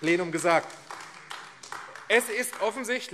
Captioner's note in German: Beifall AfD